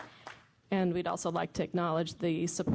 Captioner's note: applause